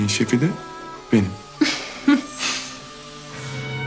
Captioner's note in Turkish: Ceyda gülme sesi